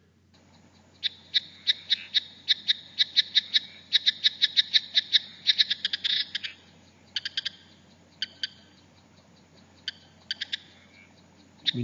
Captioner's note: sounds of the Chattering Rock Frog calling